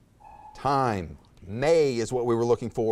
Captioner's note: timer buzzes